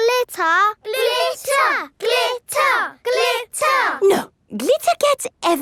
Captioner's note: chanting